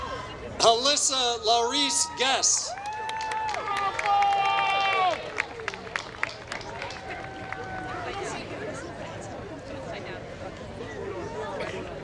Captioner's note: applause